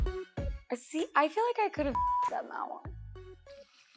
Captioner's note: beep; hip music